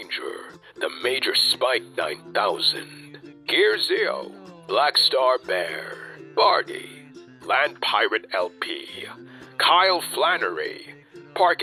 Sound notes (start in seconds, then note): none